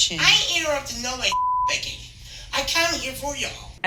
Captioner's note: beep